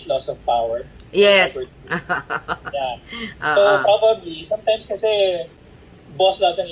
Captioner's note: laughter